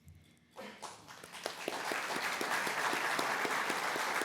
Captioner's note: applause